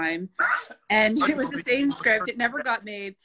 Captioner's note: laughing